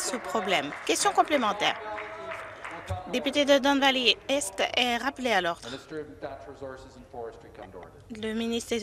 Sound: some Applause

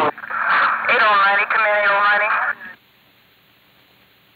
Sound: dispatcher's voice on radio

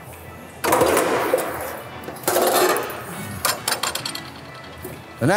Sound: shear mechanisms clicks

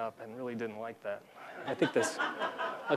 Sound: laughter

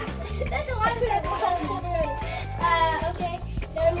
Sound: laughs

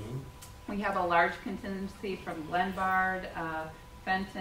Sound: murmurs

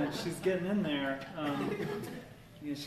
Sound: laughter

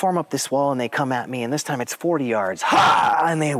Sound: yells

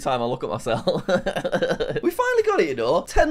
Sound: laughs

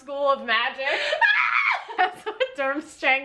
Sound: both laughing

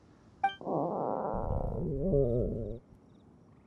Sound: stomach grumble

